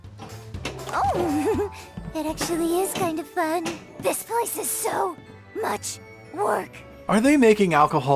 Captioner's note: Strange Pony Noises